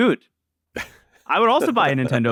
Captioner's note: laughs